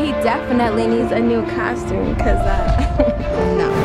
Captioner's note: chuckles